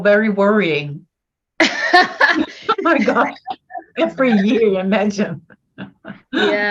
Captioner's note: laughing